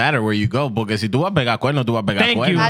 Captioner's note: speaking In Foreign Language